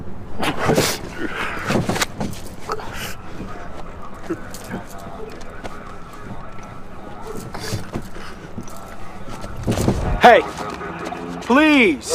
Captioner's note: echoing voices